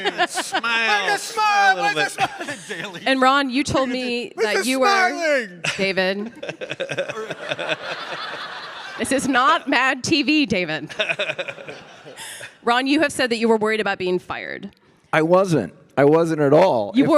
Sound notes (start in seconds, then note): 6.5 audience laughing